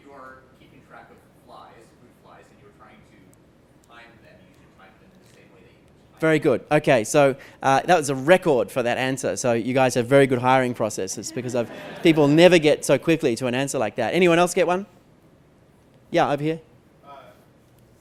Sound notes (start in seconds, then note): 11.1 laughter